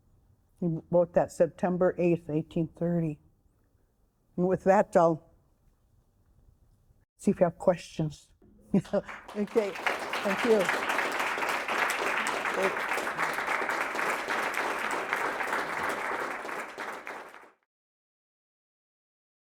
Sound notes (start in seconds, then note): 10.9 audience applauding